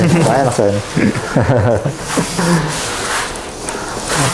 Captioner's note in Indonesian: berdehem; tertawa kecil